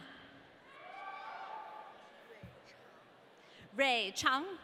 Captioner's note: audience cheering